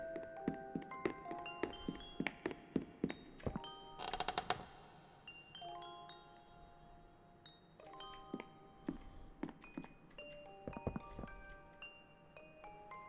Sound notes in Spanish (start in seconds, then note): 0.1 Música de cuna; 4.0 Crujido de la puerta; 7.2 Música de cuna